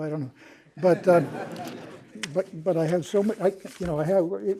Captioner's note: laughter